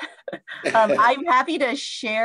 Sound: laughs

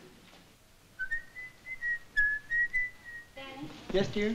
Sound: whistling

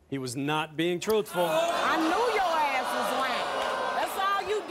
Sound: audience gasping

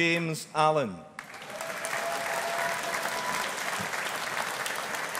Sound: audience applauding

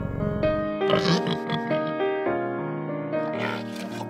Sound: bear purring; boar squealing; boar smacking and grunting

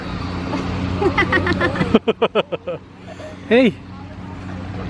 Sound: laughing

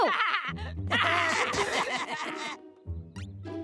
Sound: laughing

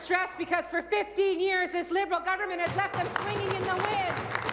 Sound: applause

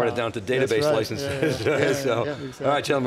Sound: male Voice; male Voice

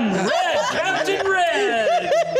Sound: laughing

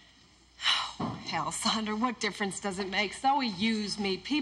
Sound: sighs

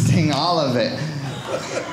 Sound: audience laughing

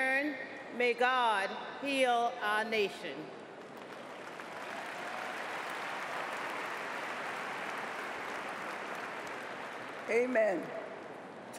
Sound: cheers & applause

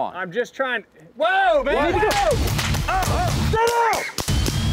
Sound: gunshots

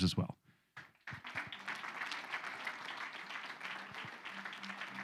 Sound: audience applauding

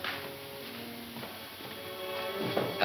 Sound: knocking

